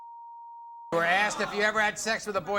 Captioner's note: beep